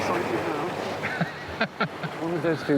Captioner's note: laughs